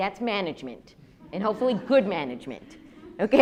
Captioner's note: audience laughs